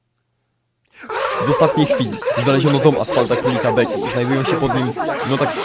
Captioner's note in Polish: wkurzone krzyki w tle